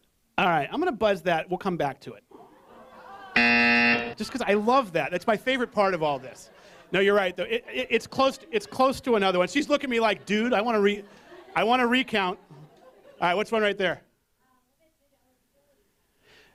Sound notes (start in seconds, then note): 3.4 buzz